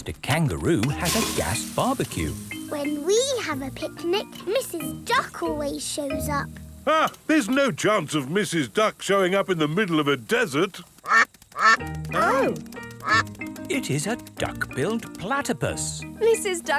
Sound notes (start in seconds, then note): 11.4 quacking